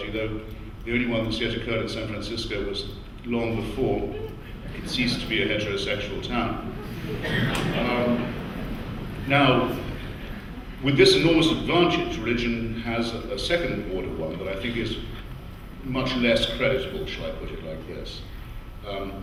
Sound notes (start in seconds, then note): 8.2 audience laughs